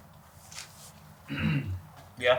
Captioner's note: Blake's throat clears